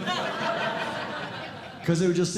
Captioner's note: audience Laughing